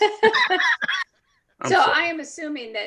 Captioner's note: laughs